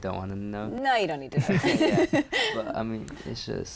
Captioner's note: laughter